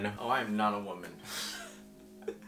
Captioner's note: laughs through the painful struggle